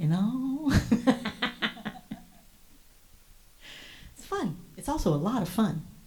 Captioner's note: chuckles